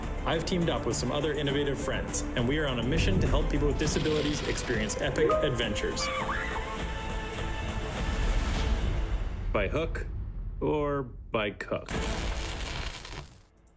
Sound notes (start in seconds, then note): 5.8 screams...epic music; 11.8 sparks